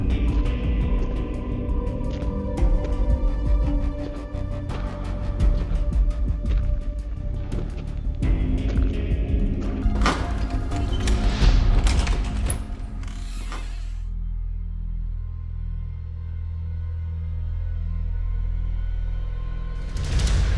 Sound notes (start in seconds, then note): 0.2 slow music continues; 9.3 slow music continues; 12.4 door creaks; 17.2 slow ominous music